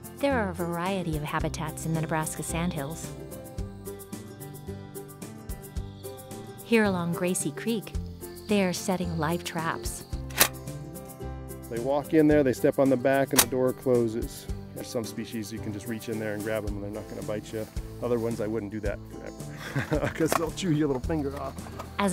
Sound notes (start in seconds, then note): 3.9 instrumental music; 19.5 laughter